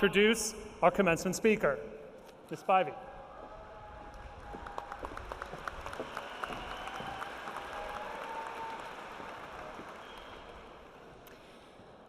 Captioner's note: cheering and applause